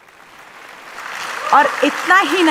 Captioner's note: applause